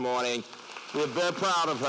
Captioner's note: applause